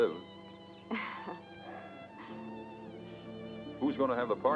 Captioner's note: Delia chuckles